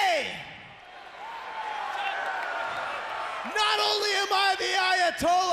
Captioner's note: crowd cheering